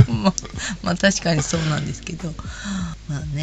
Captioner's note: laughs